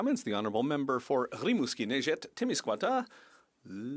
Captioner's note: speaking French